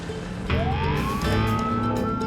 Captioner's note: police siren wailing